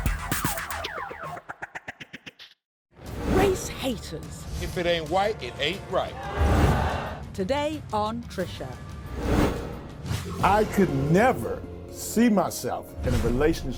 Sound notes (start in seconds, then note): 6.1 crowd boos